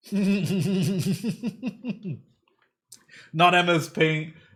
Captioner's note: laughter